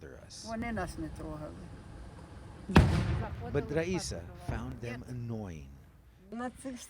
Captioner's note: speaking non-english